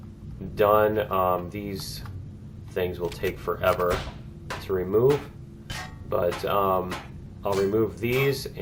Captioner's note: pinging